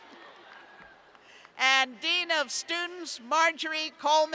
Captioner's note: laughter